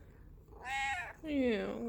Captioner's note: mraao